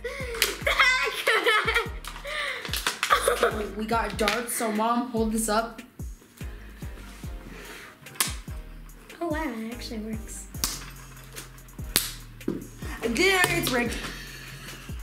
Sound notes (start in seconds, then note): 3.0 laughing; 8.1 darts thunking